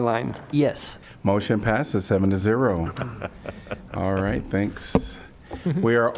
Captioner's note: laughter